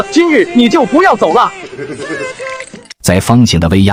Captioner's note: sinister chuckle